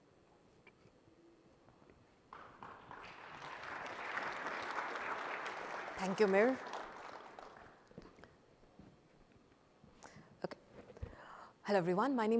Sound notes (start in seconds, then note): 2.3 applause